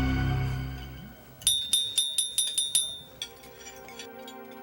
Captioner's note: clinking glass